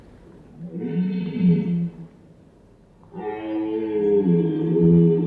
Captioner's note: stag roaring